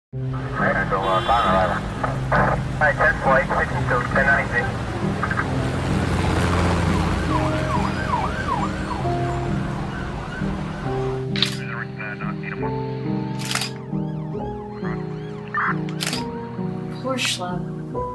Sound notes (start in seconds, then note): 0.2 police dispatch voices muffled; 4.3 soft acoustic music; 7.1 siren blaring; 11.3 camera shutter clicking